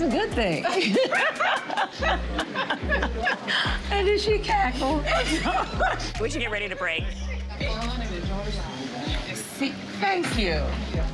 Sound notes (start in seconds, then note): 3.0 laughter; 4.4 laughs